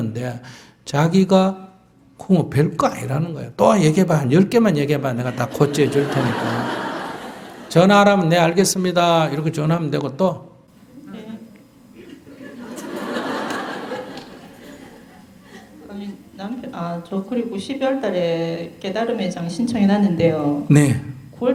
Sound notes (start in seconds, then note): 5.2 audience Laughter; 11.9 audience Laughter